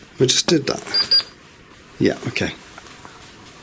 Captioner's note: K2 beeps